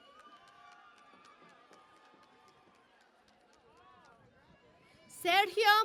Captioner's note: cheering and Applause